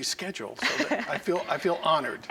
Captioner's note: laughs